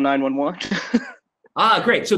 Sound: laughs

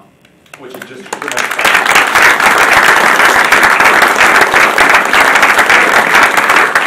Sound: audience applauding

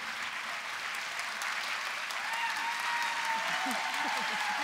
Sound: applause

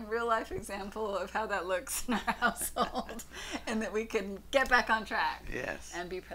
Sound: laughs

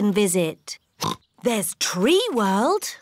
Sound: oinks

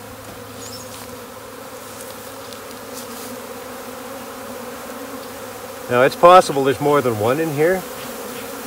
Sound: bees buzzing

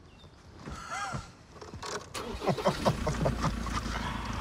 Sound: laughing

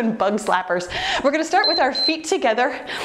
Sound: timer beeps

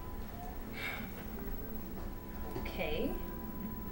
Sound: Jeanette sighs

